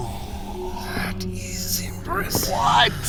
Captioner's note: sounds of footsteps hitting concrete